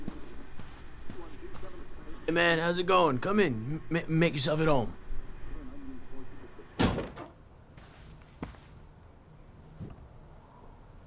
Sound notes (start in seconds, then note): 0.0 βήματα; 6.8 κλείνει η πόρτα; 7.7 βήματα